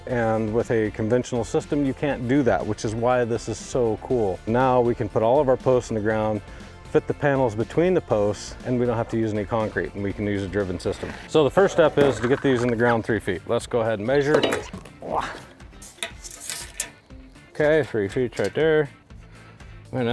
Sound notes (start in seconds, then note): 15.9 measuring tape spooling; 16.0 upbeat music